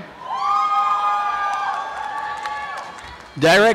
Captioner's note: applause and cheering